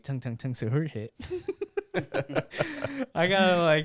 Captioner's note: laughs